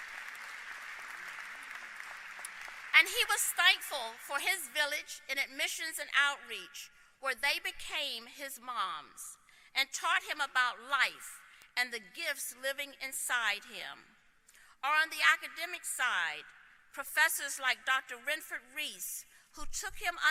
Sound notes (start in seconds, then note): 3.0 applause